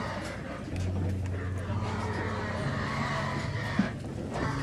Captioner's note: pigs screaming